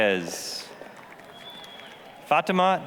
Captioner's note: applause